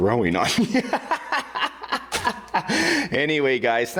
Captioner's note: laughing